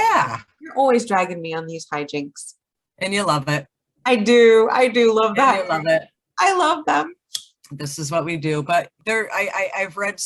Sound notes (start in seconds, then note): 6.8 lighter clicks